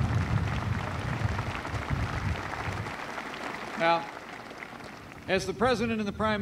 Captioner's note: applause